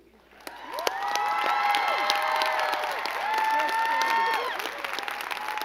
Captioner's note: crowd cheering and clapping